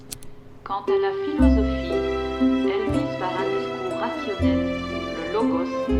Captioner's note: French